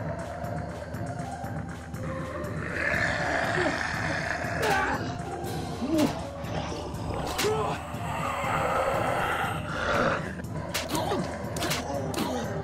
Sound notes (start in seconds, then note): 0.2 snarling; 6.2 squelching